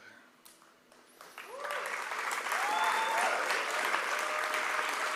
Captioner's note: applause